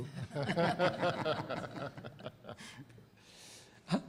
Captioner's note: laughter